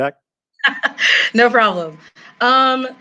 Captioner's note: laughs